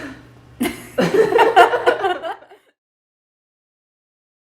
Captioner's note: laughing